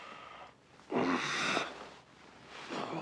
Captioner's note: groaning